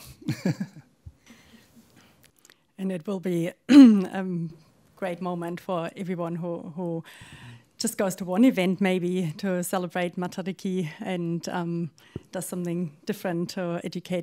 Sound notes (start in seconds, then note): 0.1 chuckles